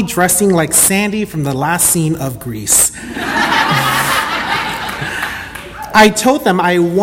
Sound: audience laughter

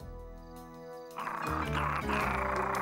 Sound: muffin growling

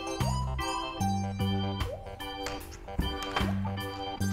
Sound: laughs

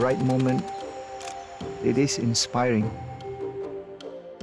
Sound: camera shutter clicks

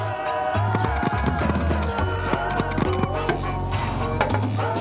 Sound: lively music; buttons clicking; toilet lid clanking

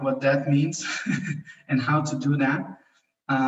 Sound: chuckles

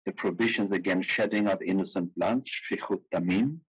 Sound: speaking in foreign language

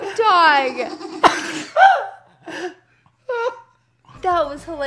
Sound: dog sneezes wildly; laughs

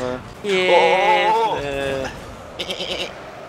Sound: segue from orgasm into sheep sound

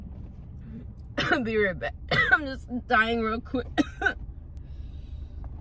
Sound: cough

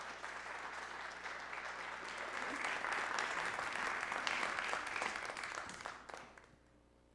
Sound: applause

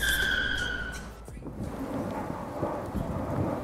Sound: car screeching

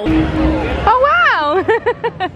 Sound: laughing

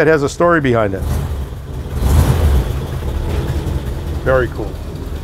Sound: car engine revving

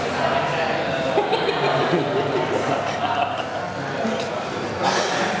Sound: participant laughing

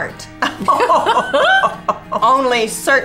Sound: both laughing

